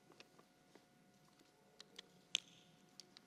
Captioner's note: none